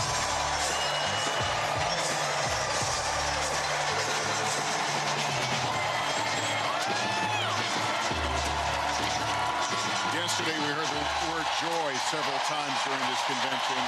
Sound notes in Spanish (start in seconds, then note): 6.0 gritos; 7.4 aplausos